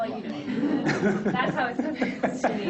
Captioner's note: people laughing